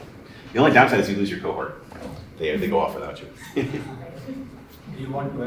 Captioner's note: laughter